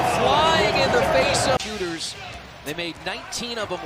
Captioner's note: cheers and applause